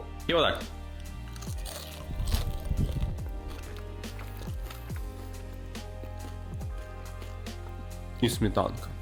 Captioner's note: crunching sounds